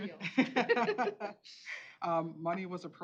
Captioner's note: laughter